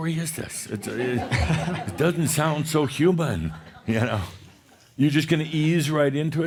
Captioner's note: laughter